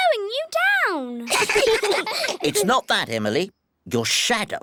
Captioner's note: all giggle